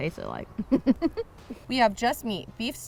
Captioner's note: laughs